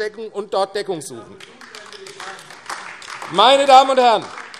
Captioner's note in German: Beifall : Er ist nicht dafür zuständig, Mann!